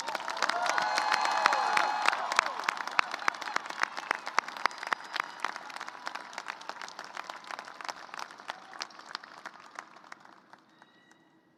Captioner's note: cheers and applause